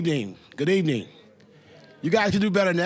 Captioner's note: general chatter